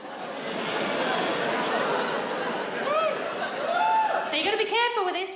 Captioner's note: audience laughs